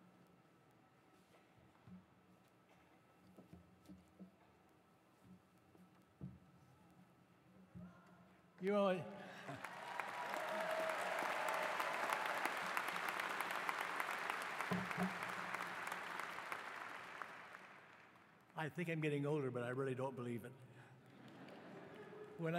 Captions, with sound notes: >> Your [ Applause ] >> I think I'm getting older, but I really don't believe it.